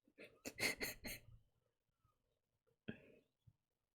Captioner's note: laughs